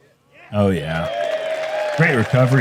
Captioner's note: crowd cheering